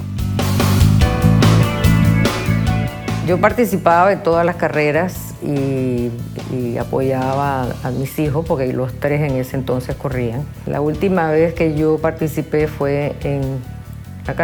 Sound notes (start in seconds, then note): 0.3 upbeat music continues; 3.3 speaking Spanish